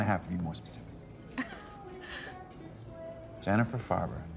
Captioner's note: laughs